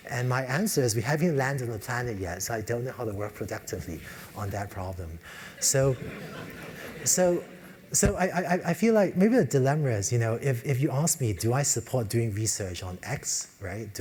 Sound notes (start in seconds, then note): 5.9 laugh